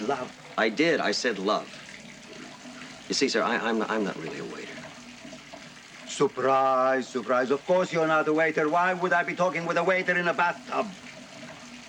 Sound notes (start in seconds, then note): 1.7 water running